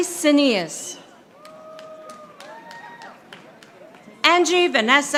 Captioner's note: audience applauding